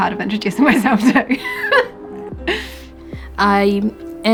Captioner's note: laughs